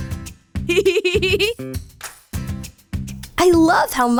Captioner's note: chuckles